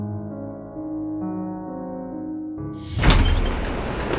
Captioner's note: car door opening; soft dramatic music